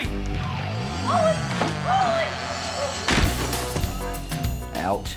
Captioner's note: thuds